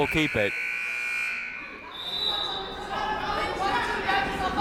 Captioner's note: siren buzzing